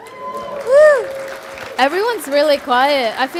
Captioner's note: applause